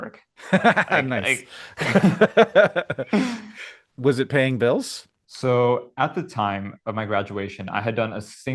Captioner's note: laughs